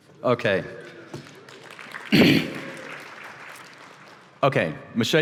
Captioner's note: applause